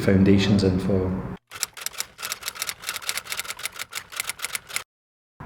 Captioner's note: keyboard clacking